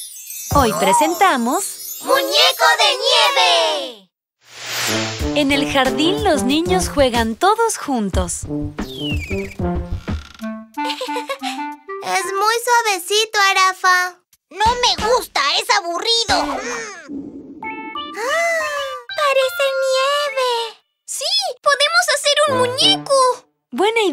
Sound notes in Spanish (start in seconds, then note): 8.8 Sonido de pájaro; 10.8 Risas